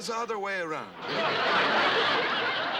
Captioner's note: laughter